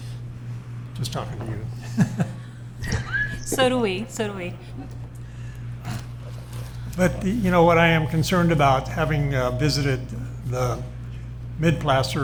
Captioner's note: laughter